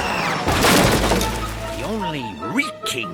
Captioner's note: screaming; crashing